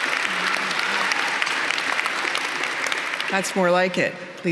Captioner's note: applause